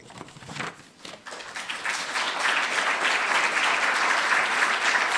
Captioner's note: applause